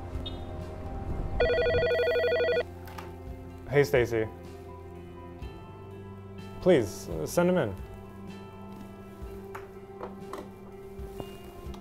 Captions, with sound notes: (phone ringing) - Hey, Stacy. Please, send him in. (gentle music)